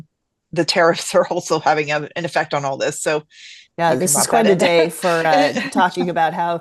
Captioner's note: laughs